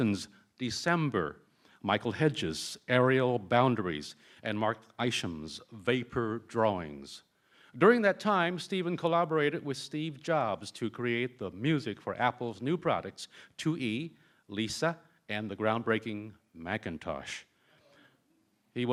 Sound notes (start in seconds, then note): none